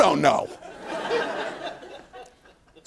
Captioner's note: laughter